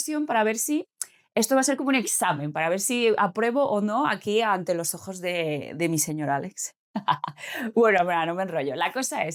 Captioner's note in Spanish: risas